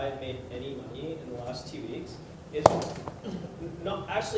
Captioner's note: popping